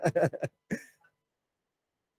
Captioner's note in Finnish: Laughs